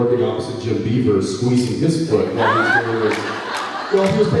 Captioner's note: laughs